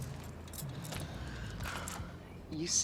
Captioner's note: sighs